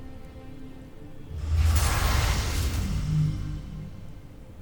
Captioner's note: ethereal whoosh; music fades